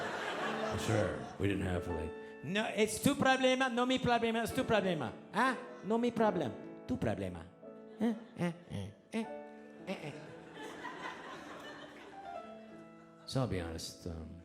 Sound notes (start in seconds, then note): 0.0 audience laughing; 2.6 speaking in foreign language; 10.0 audience laughing